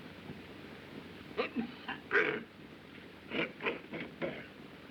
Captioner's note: coughs, Clears Throat